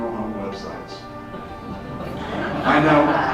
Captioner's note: crowd laughs